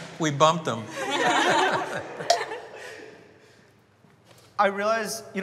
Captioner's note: everyone laughing